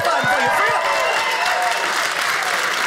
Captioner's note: audience cheers; audience applauding